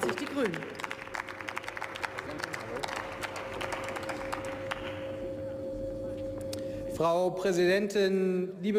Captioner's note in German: Beifall